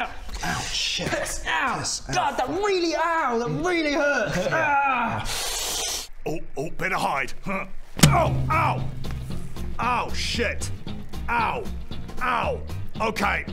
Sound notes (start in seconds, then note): 8.0 thud